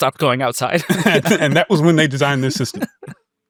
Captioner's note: laughs